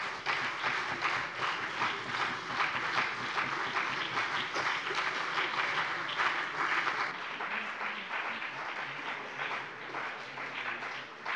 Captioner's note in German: Beifall CDU und BÜNDNIS 90/DIE GRÜNEN